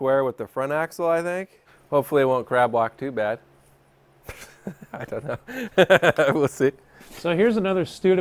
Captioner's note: laughs